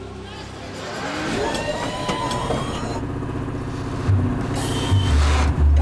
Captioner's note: mechanical sounds